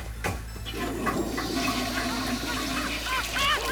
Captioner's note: flush